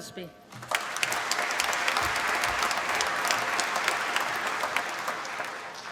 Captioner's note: applause